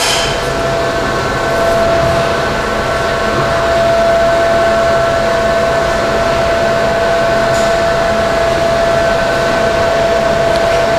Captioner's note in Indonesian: suara mesin